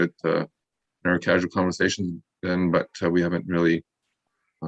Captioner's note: none